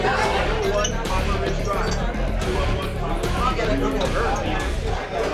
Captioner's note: background chatter